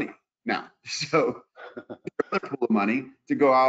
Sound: laughs

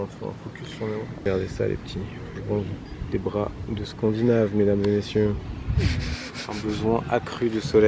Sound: laughs

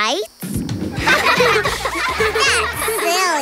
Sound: laughing

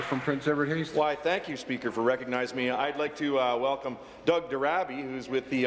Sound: applause

